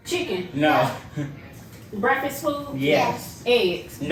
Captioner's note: laughs